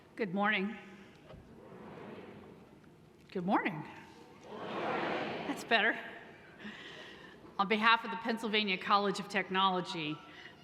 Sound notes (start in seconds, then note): 1.5 audience murmurs; 4.5 voiceover